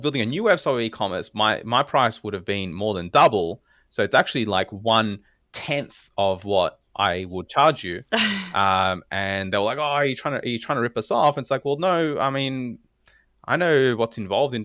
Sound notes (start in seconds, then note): 8.2 laugh